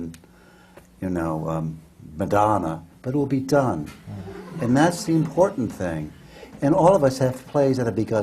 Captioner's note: laughter